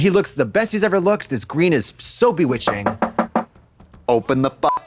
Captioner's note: Trixie knocks on table; beep